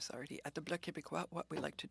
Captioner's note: speaking French